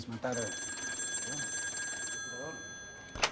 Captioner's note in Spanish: Suena el teléfono